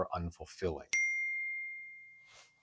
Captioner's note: iPhone notification bell